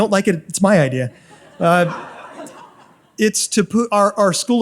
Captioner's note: audience laughs